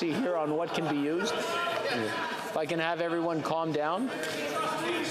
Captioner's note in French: voix de l'interprète